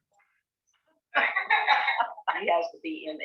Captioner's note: laughs